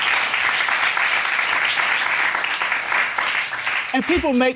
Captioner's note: audience applauding